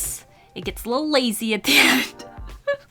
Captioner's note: laughs